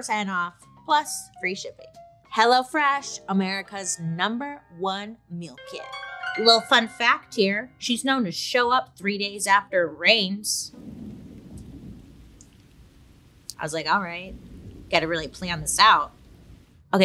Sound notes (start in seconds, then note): 5.5 twinkling music; 10.7 rain patters